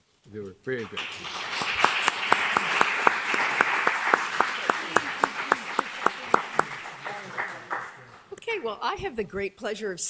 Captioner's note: applause